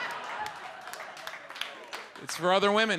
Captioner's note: audience laughs; audience applauds